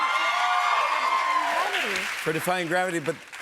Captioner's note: cheers and applause